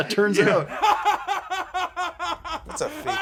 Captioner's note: laughs